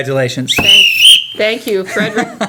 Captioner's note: blowing whistle